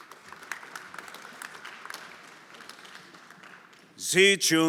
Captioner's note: everyone applauding